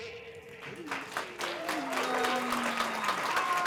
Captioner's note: applause